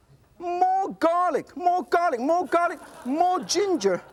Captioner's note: audience laughs